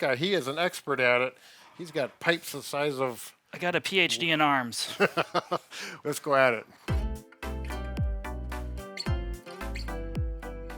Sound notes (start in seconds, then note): 4.9 laughing; 6.9 gentle music